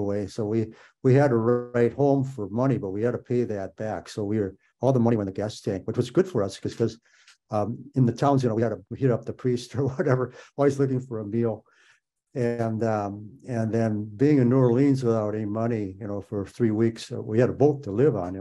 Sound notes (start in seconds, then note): 9.7 laughs